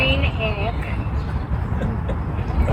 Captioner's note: laughter